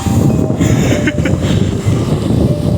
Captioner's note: wheezing laugh